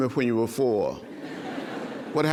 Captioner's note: laughter